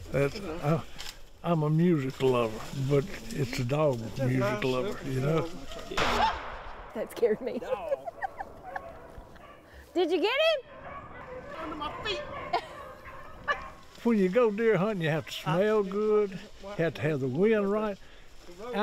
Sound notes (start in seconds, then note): 5.9 gun firing